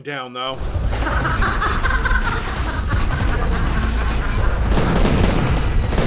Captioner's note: maniacal laugh